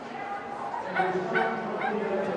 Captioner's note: dog barking